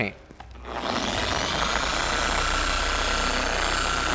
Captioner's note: polisher whirring